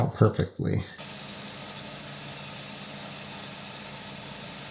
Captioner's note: machinery whirring